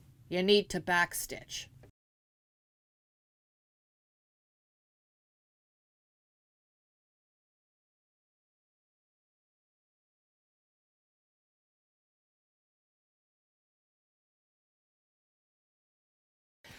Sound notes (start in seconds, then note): 1.9 no Sound Present